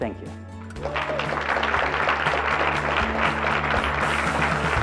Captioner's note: audience applauds